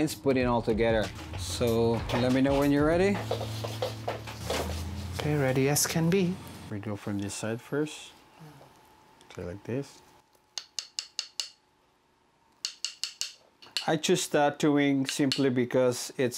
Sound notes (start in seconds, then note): 11.0 tapping